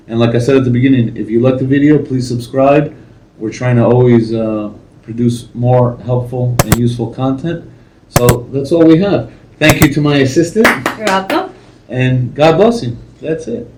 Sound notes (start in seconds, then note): 10.6 claps